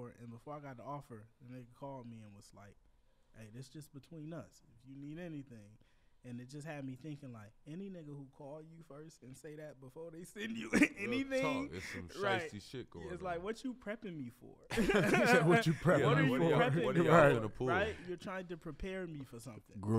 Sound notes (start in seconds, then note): 10.4 laughs; 14.7 laughs